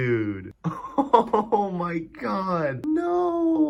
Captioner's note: cracking up